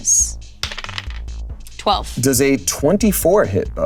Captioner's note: dice rolling